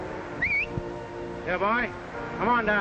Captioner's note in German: pfeift